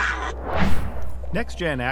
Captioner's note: cat growling